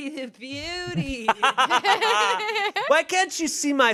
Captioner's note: everyone laughs